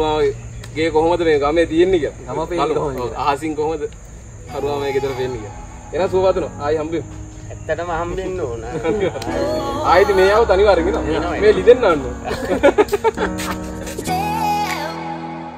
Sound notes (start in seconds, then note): 12.9 laughing